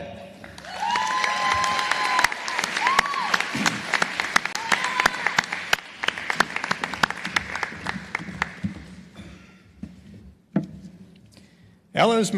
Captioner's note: applause